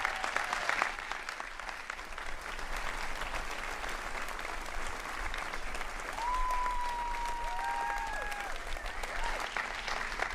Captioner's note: cheering and applause